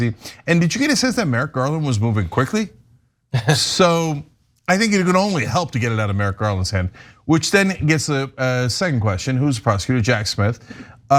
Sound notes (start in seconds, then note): 3.3 laugh